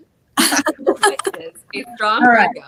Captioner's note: all laugh